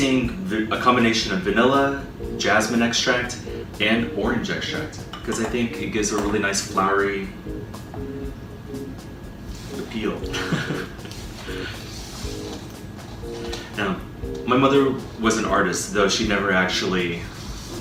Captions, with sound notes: I'm using a combination of vanilla, jasmine extract, and orange extract 'cause I think it gives a nice flowery... ...appeal. [giggle] Now, my mother was an artist though she never actually